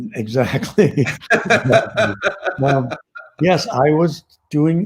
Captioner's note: laughs